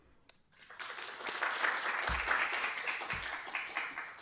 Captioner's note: applause